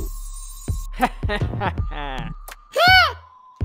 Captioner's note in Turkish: Kahkaha sesi